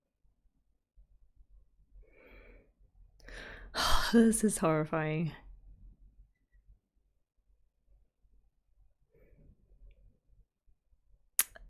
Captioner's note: breathes